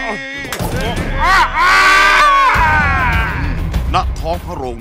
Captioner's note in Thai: ร้อง